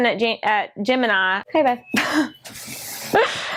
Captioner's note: laughs